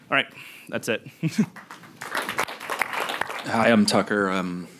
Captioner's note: audience applauding